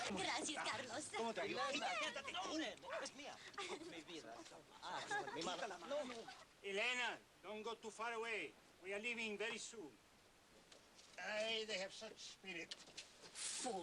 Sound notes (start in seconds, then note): 2.2 men arguing in Spanish